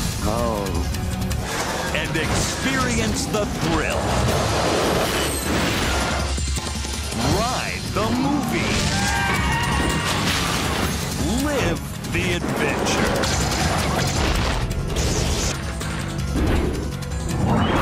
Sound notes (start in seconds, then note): 8.2 people screaming